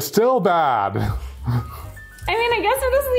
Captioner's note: laughs